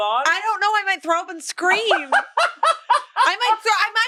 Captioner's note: laughs